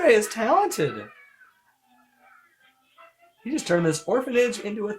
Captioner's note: children squeal excitedly